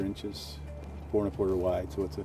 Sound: voiceover

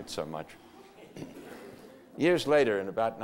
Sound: audience laughter

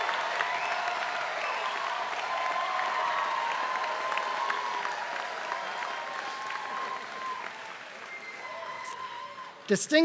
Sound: applause

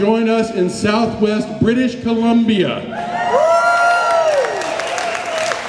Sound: cheers

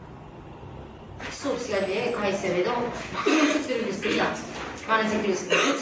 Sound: speaks in foreign language

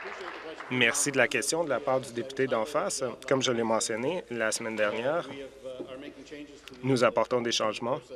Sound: applause

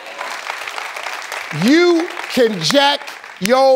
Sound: audience applauding

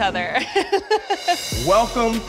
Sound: laughing

